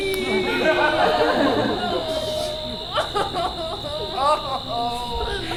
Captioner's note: cries